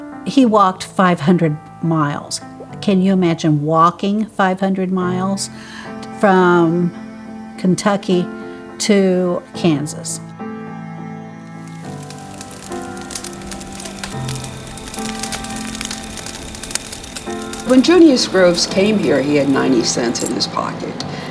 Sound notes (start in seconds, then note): 11.1 gentle music; 11.5 crickets chirping; 11.5 fire crackling